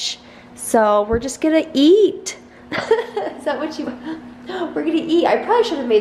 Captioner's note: laughs